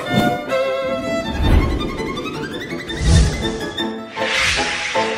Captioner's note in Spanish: viento resopla